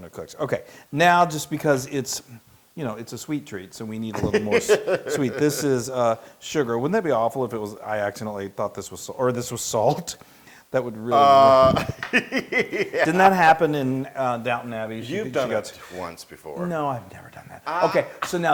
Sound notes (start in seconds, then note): 11.2 laugh